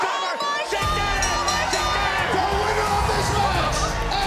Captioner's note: bell dinging